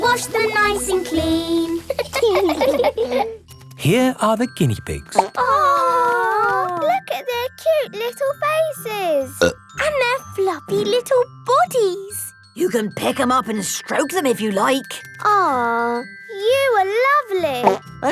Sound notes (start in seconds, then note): 1.8 laughing; 5.2 plop